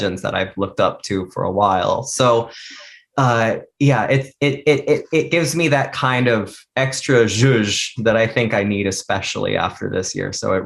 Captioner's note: mouth noise